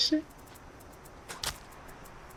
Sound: smack

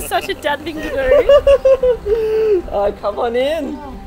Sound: laughing

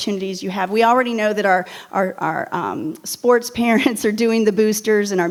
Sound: chuckles

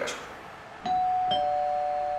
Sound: doorbell.mp3

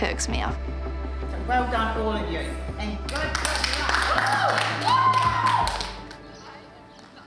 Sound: cheering, applause

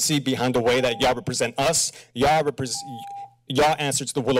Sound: timer rings

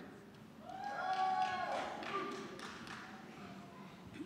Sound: scattered cheering

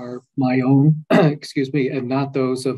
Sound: clears throat

